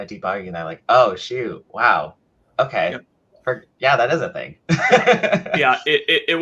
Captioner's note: laughs